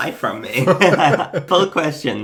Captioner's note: both laughing